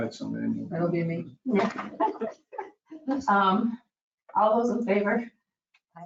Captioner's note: members laughing